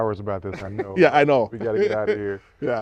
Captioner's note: laughter